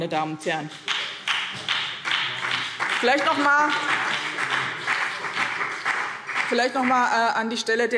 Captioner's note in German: Beifall BÜNDNIS 90/DIE GRÜNEN